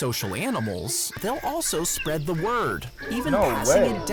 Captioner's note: crows cawing